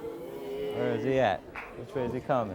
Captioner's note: audience booing